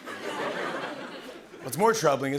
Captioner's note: laughter